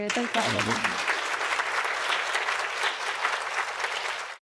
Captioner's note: applause